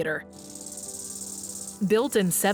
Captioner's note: insects rattling